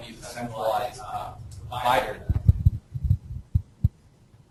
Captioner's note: distorted speech